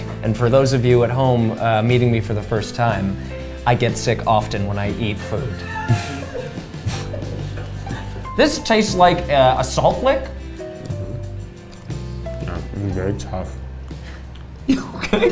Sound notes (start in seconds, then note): 6.0 crew laughs softly